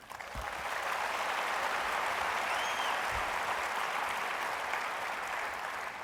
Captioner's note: applause